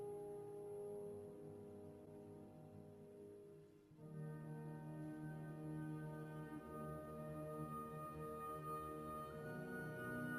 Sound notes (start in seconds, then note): none